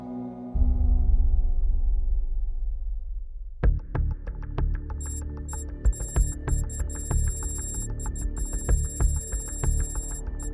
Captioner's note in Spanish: pitido electrónico; música rítmica